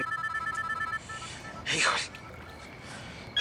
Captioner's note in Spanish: Suena el celular